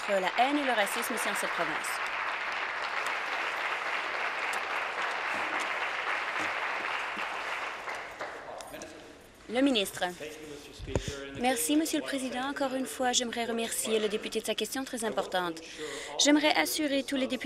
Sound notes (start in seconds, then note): 1.9 applause